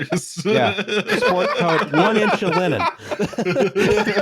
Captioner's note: laughs; laughter